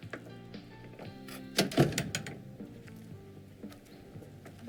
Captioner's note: clunk